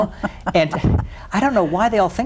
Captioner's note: laughs